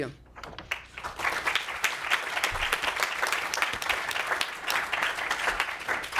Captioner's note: applause